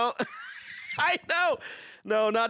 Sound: laughing

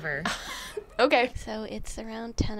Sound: laughs

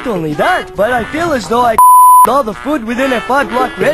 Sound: beep

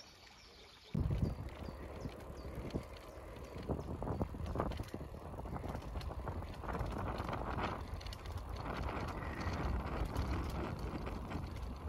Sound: sound of birds chirping and running water

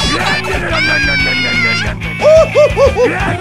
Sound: Pikachu screams; jazzy music

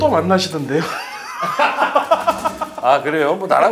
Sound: hahaha

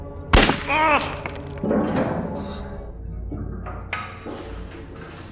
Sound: gun bangs

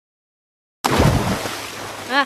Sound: splash

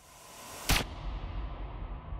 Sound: gun fires

